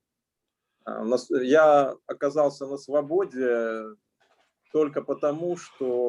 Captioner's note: speaking Russian language